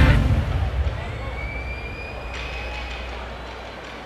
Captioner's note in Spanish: Bullicio